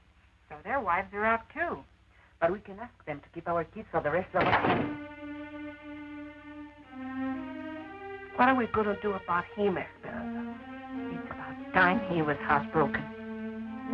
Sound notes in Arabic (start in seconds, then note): 4.3 يُغلق الباب بقوة